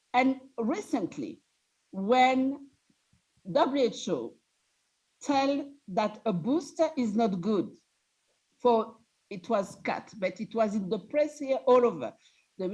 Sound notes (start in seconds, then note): none